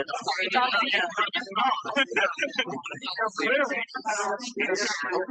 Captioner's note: background chattering continues